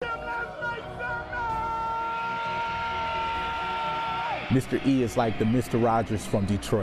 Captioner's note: audience cheering